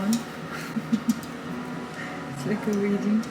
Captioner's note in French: rire de gêne